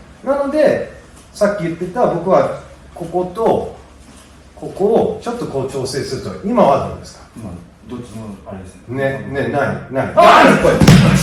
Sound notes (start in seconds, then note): 10.7 collision